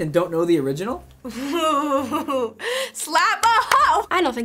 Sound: chuckles giddily

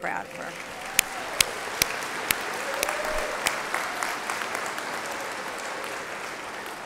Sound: applause

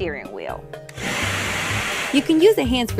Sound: hair dryer blows

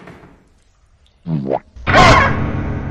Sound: boo-womp

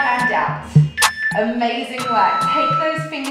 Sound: timer beeping

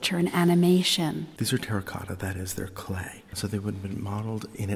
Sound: voiceover

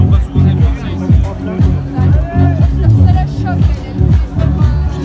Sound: bar patrons talking loudly

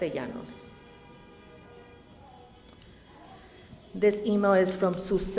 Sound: cars honking

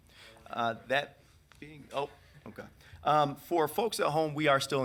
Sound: speaking distantly

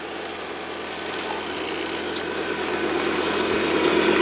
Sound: machine engine roaring

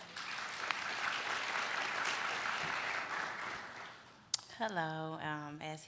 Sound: applauding

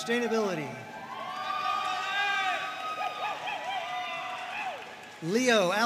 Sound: audience cheering and applauding

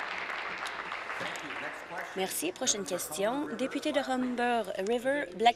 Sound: applause

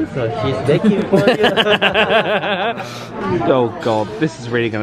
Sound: all laughing

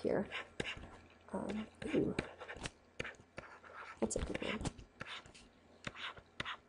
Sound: scribbling

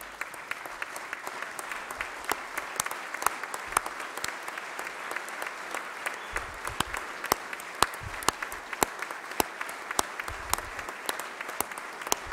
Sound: applause

